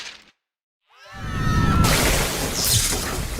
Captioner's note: screaming